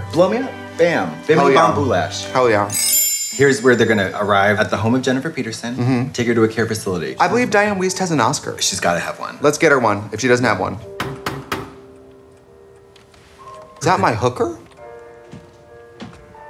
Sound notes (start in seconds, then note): 11.0 knocking